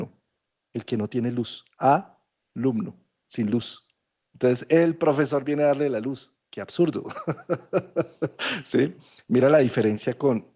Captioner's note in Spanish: risas